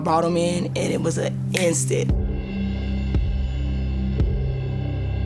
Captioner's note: snapping